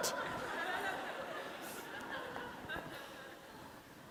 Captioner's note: laughter